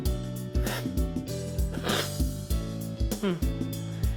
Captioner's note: slurping